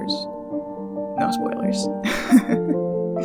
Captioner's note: laugh